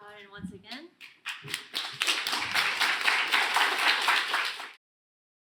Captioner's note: applause